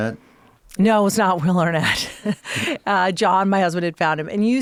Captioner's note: chuckles